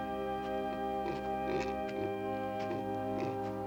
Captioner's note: grunting